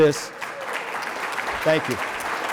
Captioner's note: applause